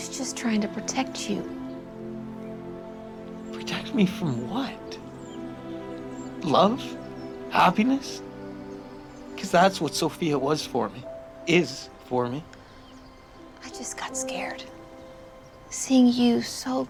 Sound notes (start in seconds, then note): none